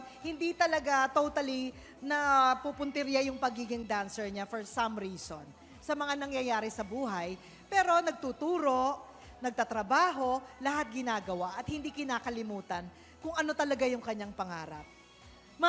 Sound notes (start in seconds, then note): none